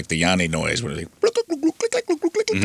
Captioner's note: imitates bird noises